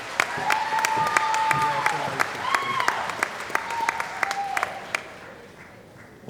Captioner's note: cheering & Applause